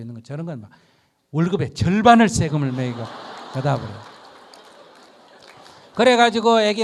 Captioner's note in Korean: 청중 웃음